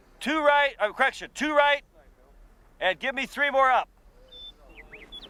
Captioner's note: voiceover